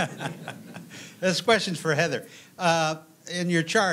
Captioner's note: laughter